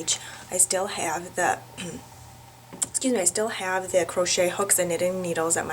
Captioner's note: clears throat